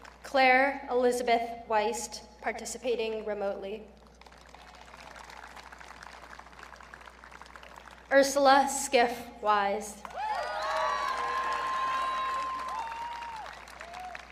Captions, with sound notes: Claire Elizabeth Wiest, participating remotely. (audience clapping) Ursula Skiff Wise. (audience cheering)